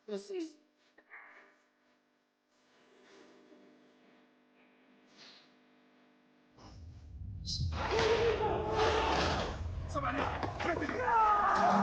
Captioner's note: sound effects